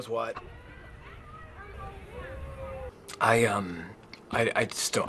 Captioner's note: people chattering; people cheering